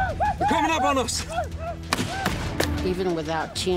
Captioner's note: gunfire